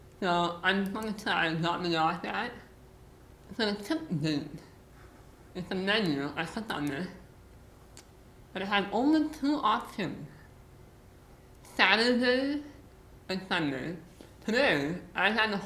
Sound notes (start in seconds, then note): none